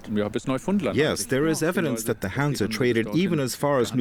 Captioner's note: in German